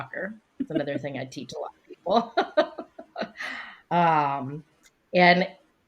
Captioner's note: laughing; laughs